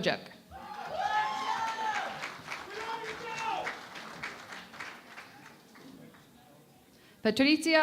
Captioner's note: cheering and Applause